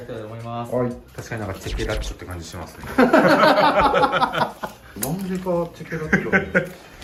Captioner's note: laughs